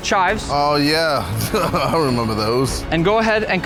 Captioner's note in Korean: 웃음